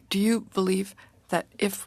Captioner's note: speaking in french